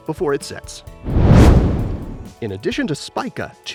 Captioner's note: meteor swishes